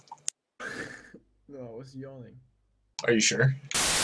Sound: chuckle

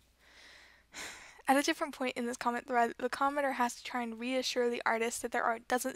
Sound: sigh

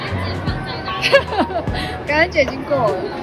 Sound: laugh

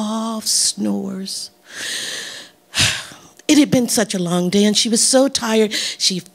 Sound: sighing

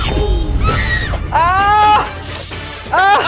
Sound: shouting

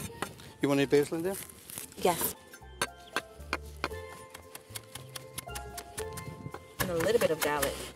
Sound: chopping; slicing

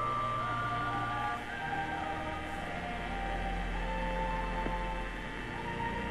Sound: radio playing

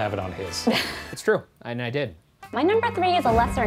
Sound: laughing

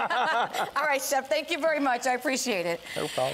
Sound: laughter

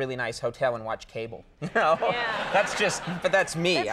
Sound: laughs

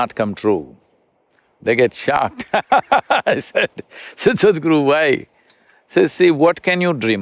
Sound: laughs

